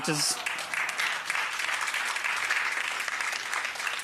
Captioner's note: applause